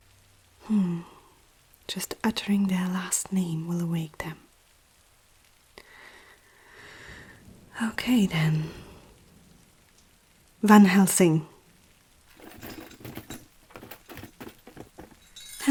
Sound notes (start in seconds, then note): 5.8 deep Breath; 12.2 chain rattling